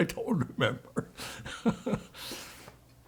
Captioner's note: laughing